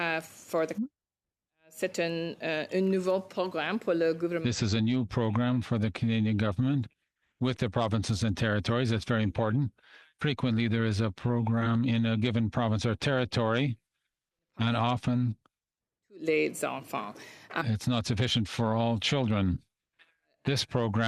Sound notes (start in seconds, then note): 7.9 speaking French